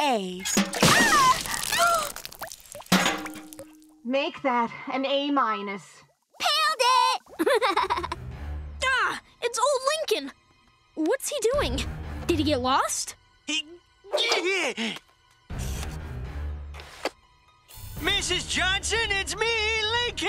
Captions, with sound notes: [screaming] [gasping] Make that an A minus. Pailed it! [laughing] Ah, it's old Lincoln! What's he doing? Did he get lost? [grunting] Mrs. Johnson, it's me, Lincoln.